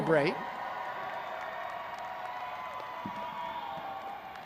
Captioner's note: graduates cheering